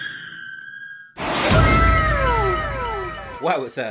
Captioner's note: wooooow !!!